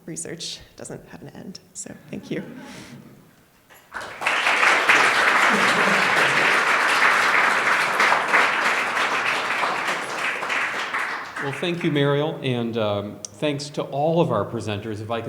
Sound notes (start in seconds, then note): 4.1 applause